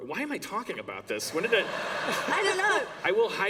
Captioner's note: laughter